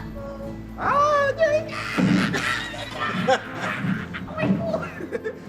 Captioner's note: laughing and howling